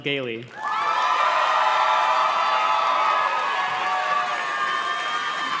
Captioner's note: audience cheers and claps